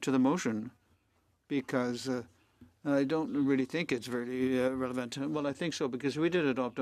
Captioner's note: speaking French